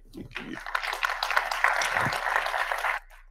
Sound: audience applauds

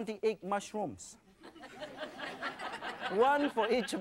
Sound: laughing

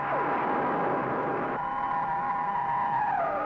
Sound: flames roaring

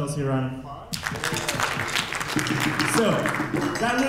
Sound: audience applauding

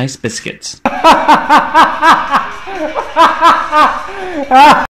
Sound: raucous laughter

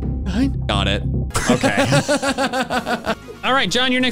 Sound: laugh

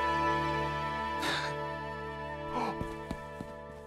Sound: Harris gasps

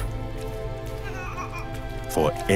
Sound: cooing

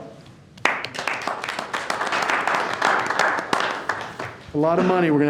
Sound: board members clapping

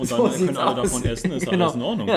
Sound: laughs

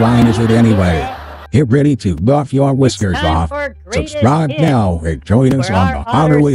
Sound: voiceover

